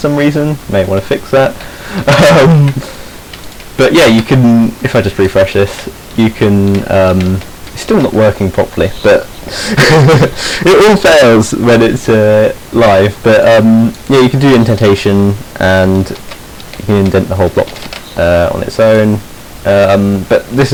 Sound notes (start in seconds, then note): 1.8 he snickers; 9.4 he laughs